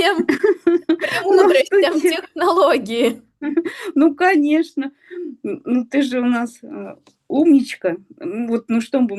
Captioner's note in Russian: смех